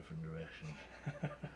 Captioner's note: laughs